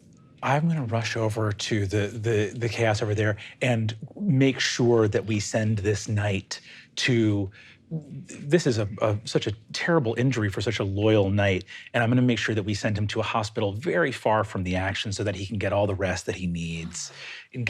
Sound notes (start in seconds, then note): none